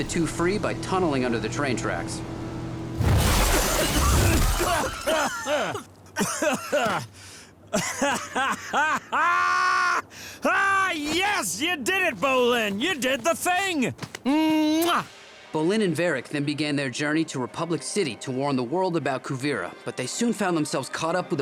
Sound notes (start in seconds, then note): 3.7 coughing; 7.7 laughing